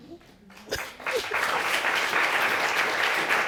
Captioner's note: audience applauding